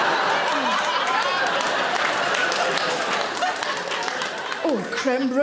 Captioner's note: audience applauding